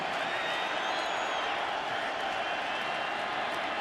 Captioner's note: cheering